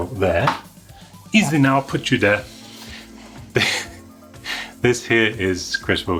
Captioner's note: chuckles